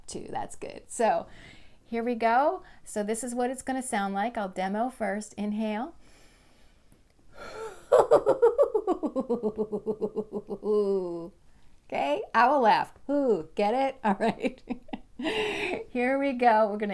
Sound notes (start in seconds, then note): 7.7 laughter sound: hoo hoo hoo